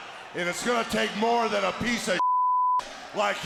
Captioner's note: beep; audience cheers